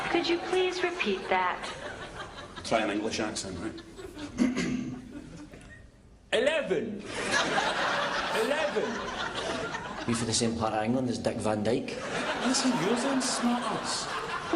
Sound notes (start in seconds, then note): 6.7 clears throat; 7.0 laughter; 11.9 laughter